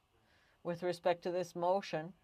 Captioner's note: speaking french